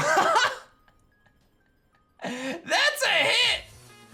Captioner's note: laughs